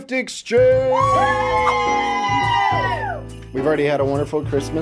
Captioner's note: everybody cheers